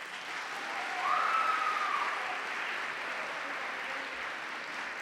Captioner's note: applause